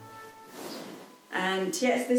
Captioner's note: fabric rustling